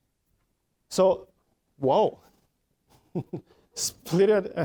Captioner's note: chuckling